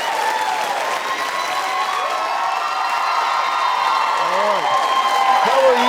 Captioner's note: audience applauding and cheering